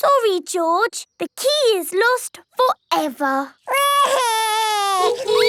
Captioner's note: honking; wailing